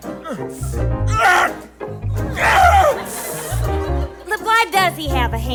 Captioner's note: pained scream as his malformed hand extends